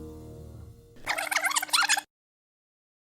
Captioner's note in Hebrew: קלטת מריצה לאחור